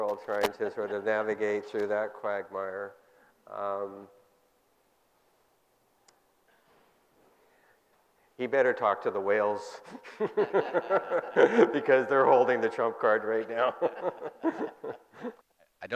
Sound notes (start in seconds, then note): 9.9 laughing; 14.1 group laughing